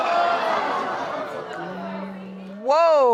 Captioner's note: audience exclaiming